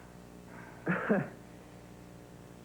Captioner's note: Josh laughs awkwardly